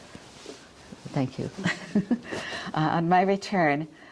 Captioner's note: chuckles